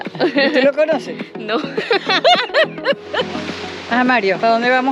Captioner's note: laughs